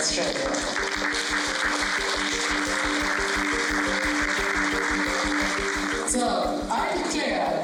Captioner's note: applause